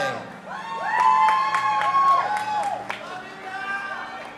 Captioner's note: audience applauding and cheering